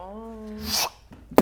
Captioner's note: fwop